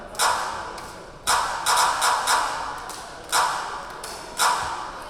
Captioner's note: rhythmic clapping